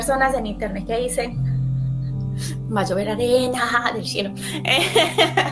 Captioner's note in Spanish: risas